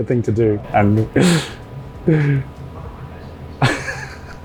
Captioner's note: laughs